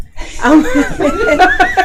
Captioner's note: laughing